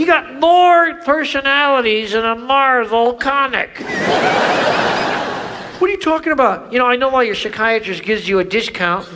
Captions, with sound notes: - You got more personalities than a Marvel comic. (audience laughs) - What are you talking about? - You know, I know why your psychiatrist gives you a discount.